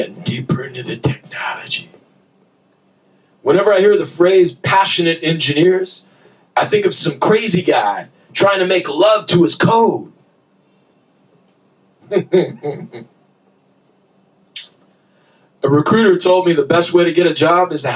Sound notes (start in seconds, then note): 12.0 laughter